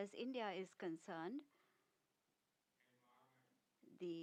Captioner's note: speaking non-english